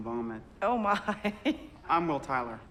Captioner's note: laughs